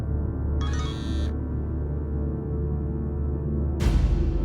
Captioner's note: phone chimes, buzzes